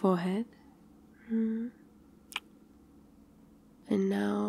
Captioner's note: kiss